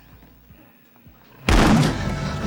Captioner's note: door booming